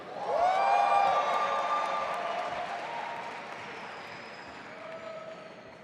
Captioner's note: audience applauding and cheering